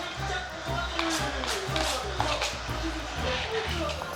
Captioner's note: scraping